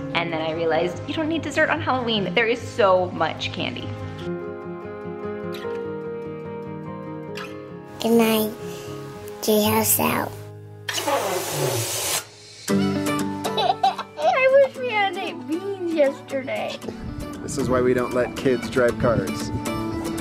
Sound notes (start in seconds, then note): 10.8 balloon noise; 13.4 laughing